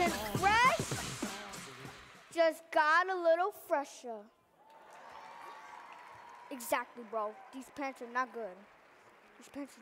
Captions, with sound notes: Always Get Fresh, just got a little fresher. (audience cheering) Exactly bro, these pants are not good.